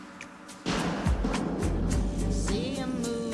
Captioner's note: gunshot